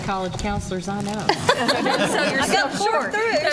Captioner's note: laughter